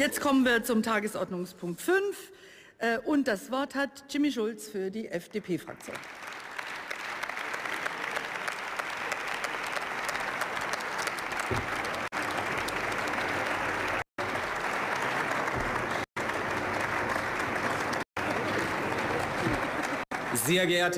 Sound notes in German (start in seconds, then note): 5.7 Beifall